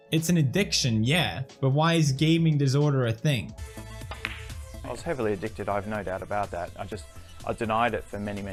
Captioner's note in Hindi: none